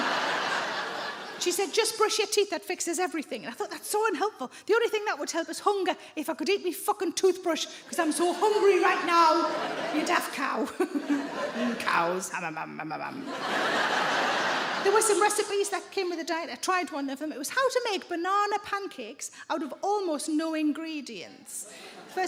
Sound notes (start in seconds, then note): 0.0 audience laughs; 11.1 laughs; 13.1 audience laughs